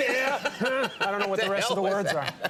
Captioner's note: Conan laughs